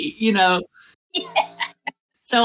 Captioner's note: laugh